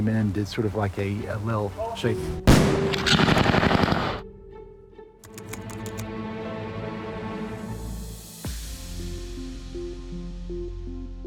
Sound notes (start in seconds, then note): 2.4 gunfire